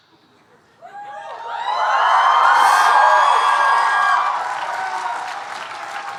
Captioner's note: audience cheering and applauding